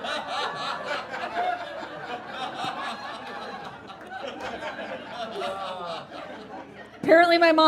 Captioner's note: audience continues laughing